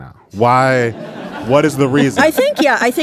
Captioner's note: audience laughing